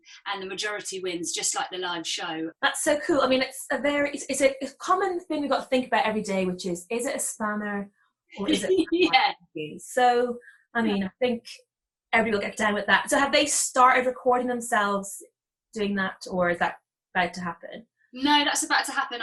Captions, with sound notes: and the majority wins, just like the live show. - That's so cool. It's a common thing we've gotta think about every day, which is, is it a spanner or is it-- (laughing) - Yeah. - So I mean I think everyone will get down with that. So have they started recording themselves doing that or is that about to happen? - No that's about to happen.